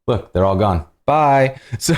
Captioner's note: laughter